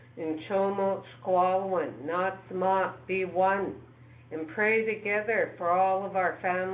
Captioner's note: speaking in foreign language